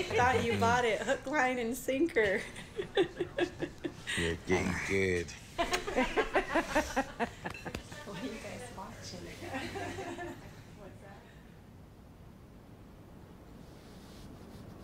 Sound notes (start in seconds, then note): 5.7 laughter